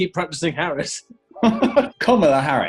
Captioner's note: laughing